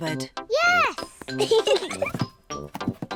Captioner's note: both giggle